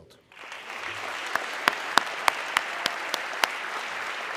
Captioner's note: audience clapping